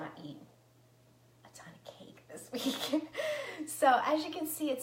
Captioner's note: laughs